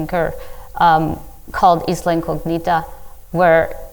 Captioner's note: speaking in foreign language